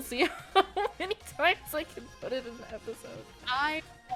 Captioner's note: laughing